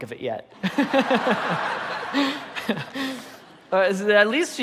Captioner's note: audience laughing